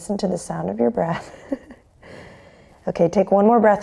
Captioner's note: chuckles